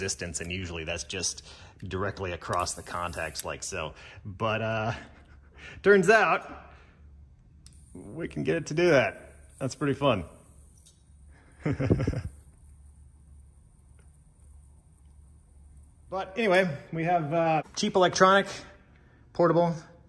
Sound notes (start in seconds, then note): 4.8 chuckles; 11.6 laughs